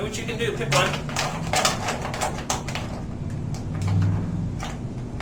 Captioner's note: crayons rattling